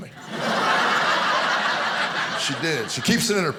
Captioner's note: audience laughing